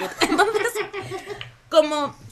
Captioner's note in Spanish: risas